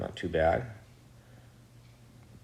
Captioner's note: whirring sound